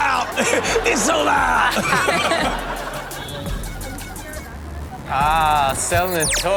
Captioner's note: audience laughs